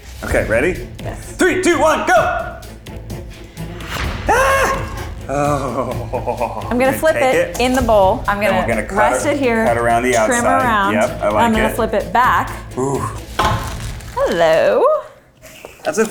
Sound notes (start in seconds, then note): 4.2 screams